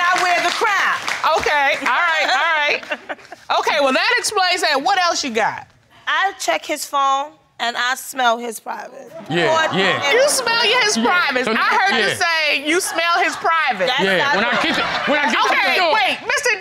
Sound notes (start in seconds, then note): 9.2 audience groans